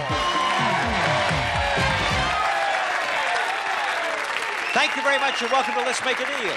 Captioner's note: applause